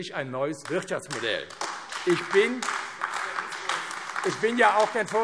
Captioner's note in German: Beifall AfD